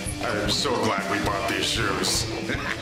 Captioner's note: laughter